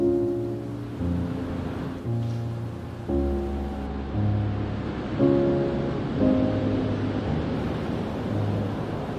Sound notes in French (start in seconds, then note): 1.6 Bruit de vagues accompagné de musique